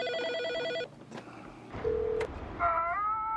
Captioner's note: phone ringing